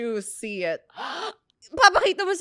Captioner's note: gasps